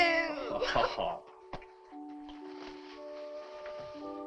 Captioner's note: Chase laughs